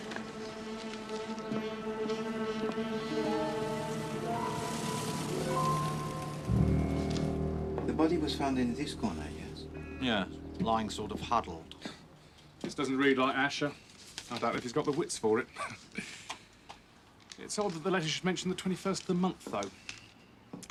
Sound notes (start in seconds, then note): 15.2 terkekeh